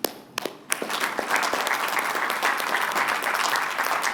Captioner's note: applause